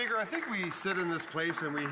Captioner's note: some Applause